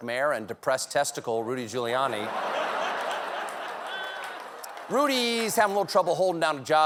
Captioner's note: laughter